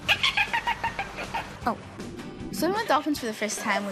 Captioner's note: dolphins chirp